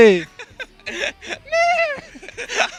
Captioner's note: interviewee laughs and neighs; both laughing